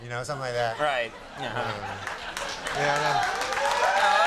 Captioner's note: crowd laughs